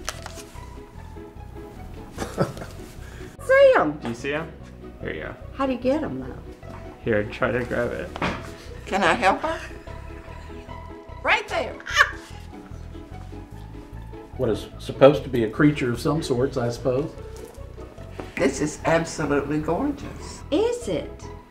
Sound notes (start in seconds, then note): 2.1 laughing; 11.4 laughing